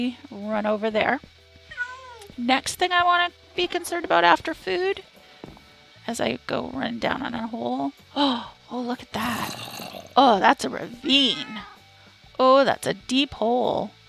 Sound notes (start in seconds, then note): 8.2 gasp